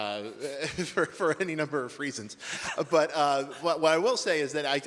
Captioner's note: laughs